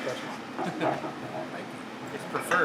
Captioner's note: Destin laughs